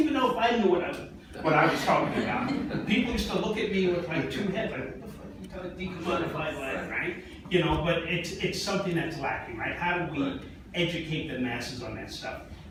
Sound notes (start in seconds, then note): 1.4 laughing